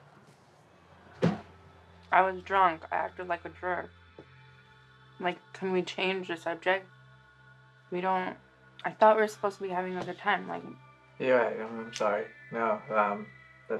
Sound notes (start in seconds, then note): 1.2 closes car door